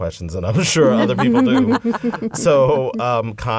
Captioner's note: laughter